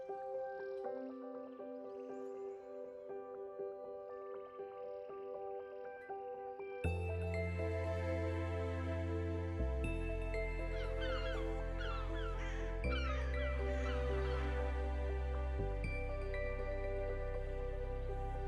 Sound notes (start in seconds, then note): 7.0 thoughtful music; 11.8 birds squawking; 15.4 thoughtful music